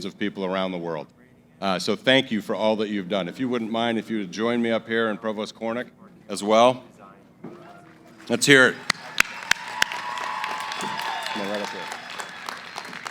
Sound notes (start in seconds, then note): 8.2 cheering & applause